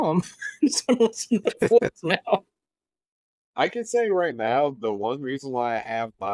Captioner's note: laughs